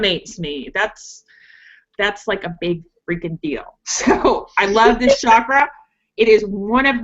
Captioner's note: laughs